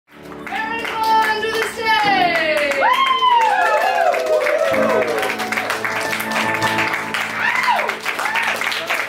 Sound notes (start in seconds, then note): 5.7 applause, loud piano